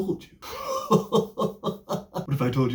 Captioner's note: goblin chuckling